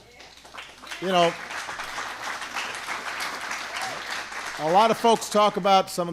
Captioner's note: applause